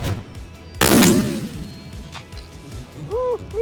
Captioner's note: gunshot